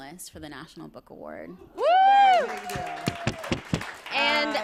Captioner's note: applause